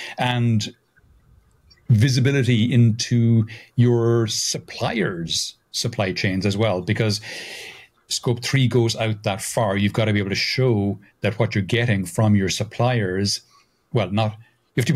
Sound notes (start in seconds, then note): none